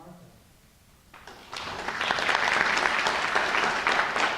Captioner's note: applause